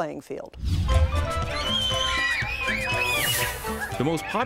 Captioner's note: children screaming